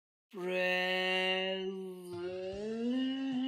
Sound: in a very seductive voice

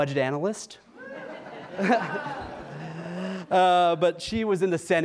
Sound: audience cheers and laughs

